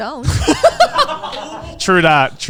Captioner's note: everyone laughing